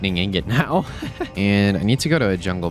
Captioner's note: laughs